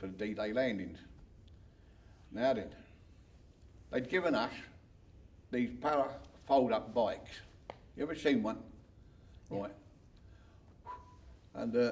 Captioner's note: whistles